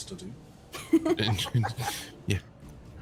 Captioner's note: laughs